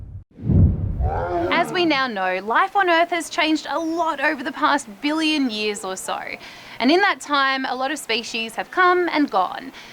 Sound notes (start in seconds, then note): 1.0 growling